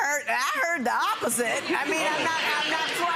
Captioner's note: laughing